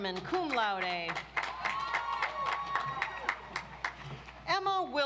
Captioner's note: audience applauds